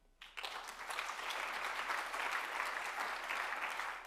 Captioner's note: applause